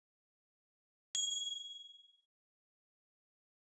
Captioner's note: bell ring